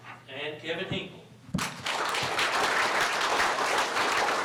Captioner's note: applause